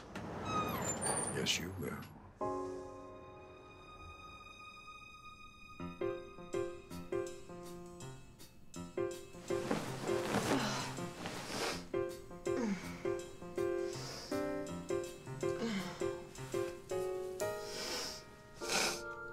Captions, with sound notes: (door creaks open) Yes, you will. (sighing)